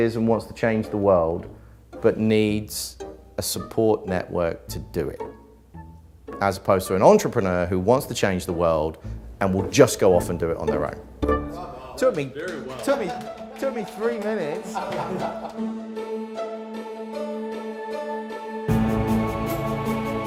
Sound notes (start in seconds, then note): 15.4 group laughter; 17.0 instrumental music